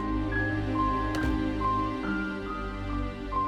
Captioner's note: slams door